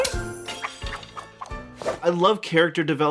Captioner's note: wand whish-whooshing